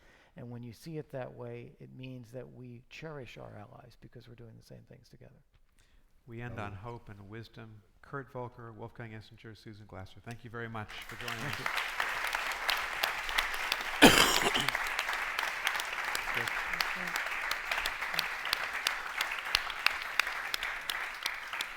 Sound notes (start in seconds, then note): 13.5 audience applauding